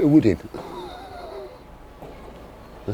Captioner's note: laughing